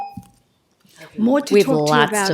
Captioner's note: tone